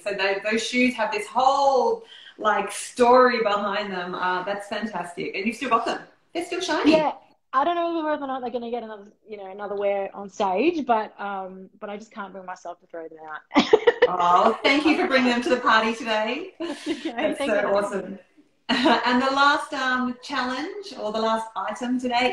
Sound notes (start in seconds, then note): 13.5 laughing